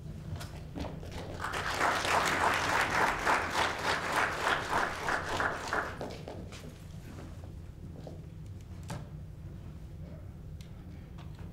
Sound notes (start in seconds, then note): 1.1 applause